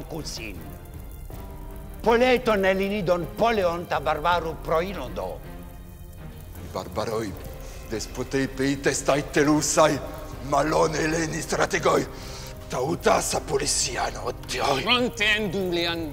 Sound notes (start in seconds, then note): 6.7 assembly member speaking in foreign language; 15.2 Themistocles speaking in foreign language